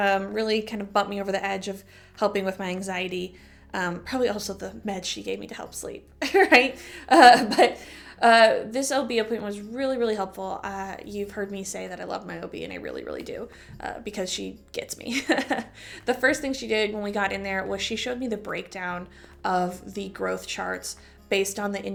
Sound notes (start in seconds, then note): 7.2 laughter; 15.2 chuckle